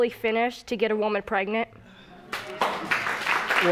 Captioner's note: audience applauding